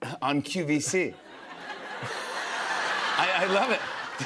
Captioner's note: laughter